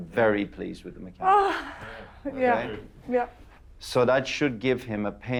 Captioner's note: sighs